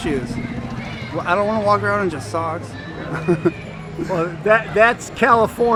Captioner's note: chuckling